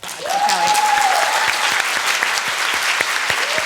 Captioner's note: applause